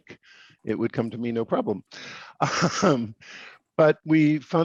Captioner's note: laughs